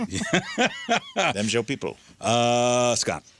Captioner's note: laughing